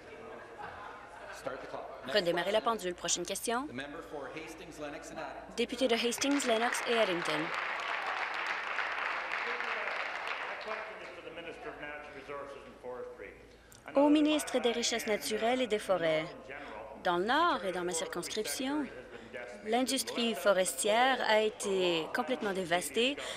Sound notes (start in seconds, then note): 8.9 applause